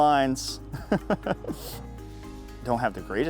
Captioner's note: laughs